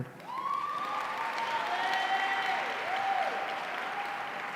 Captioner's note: audience cheering